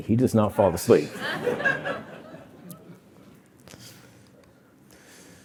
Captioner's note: laughter